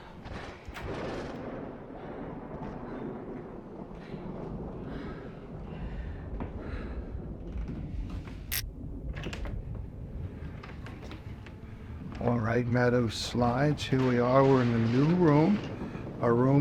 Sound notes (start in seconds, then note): 2.0 thunder rumbling